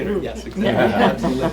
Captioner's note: laughing